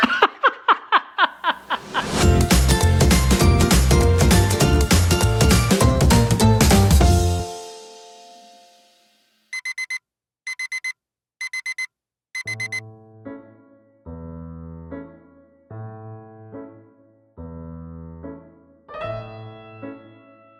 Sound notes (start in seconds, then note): 0.0 laughs; 2.1 upbeat music; 9.6 alarm ringing; 12.6 playful music